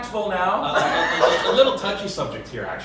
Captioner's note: laughs